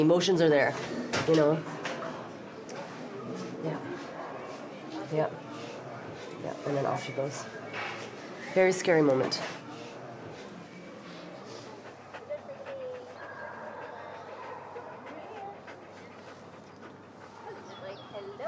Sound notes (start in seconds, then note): 12.6 radical panting